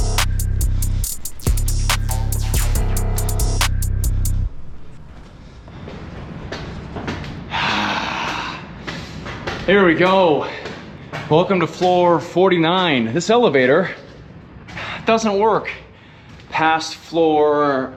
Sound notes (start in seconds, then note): 6.3 stairs clicking; 7.4 sighing